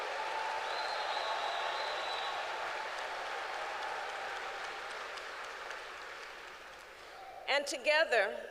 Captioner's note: applause